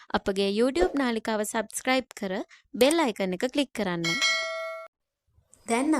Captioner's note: bell